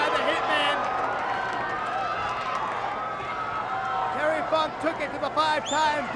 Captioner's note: applause